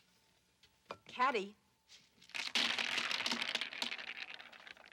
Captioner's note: hazelnuts rattling